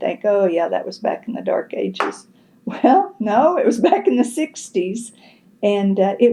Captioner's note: laughs